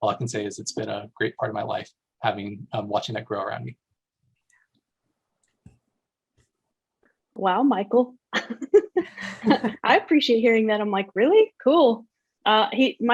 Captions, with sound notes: All I can say is it's been a great part of my life. Having watching that grow around me. Wow Michael, [laughs] I appreciate hearing that. I'm like really, cool.